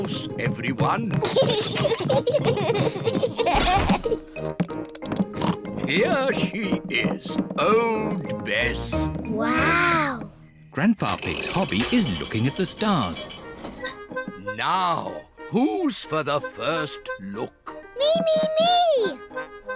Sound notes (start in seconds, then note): 1.1 peppa and george giggling; 5.3 oinks